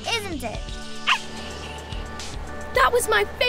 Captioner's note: dog barks